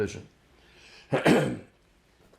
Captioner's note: clears throat